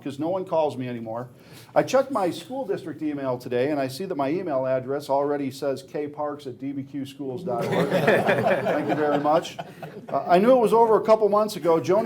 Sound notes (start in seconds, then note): 7.5 laughing